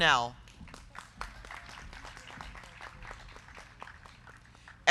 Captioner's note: crowd clapping